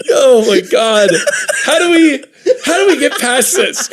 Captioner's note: cackling